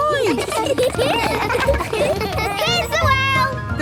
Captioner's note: laughter